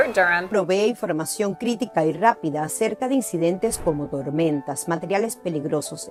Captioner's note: interpreter speaking in foreign language